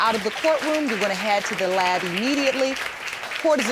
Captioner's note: audience applauding